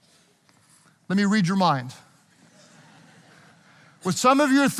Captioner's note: audience chuckling